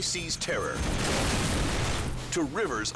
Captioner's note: helicopter crashes